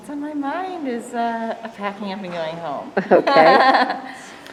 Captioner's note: laughs